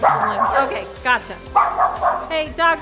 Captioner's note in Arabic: الكلاب تنبح